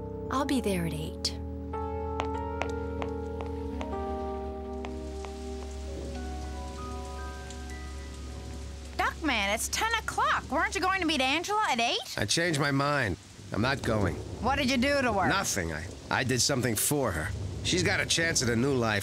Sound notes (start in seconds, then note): none